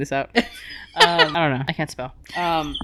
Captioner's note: laughing